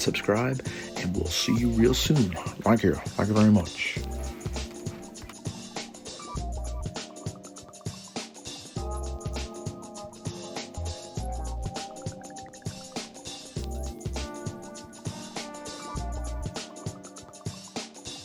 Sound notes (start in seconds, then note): 2.7 In my best Elvis voice